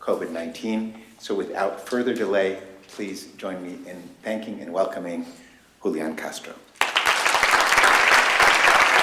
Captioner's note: applause